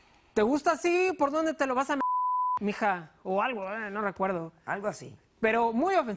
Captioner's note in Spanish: Bip